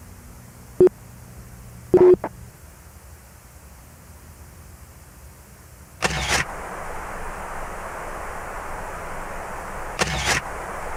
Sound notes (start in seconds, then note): 6.6 wind whooshing